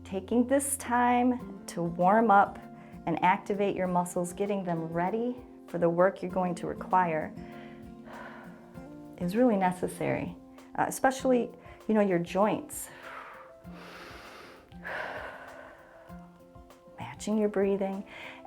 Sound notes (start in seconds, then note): 7.4 exhales; 12.9 inhales and exhales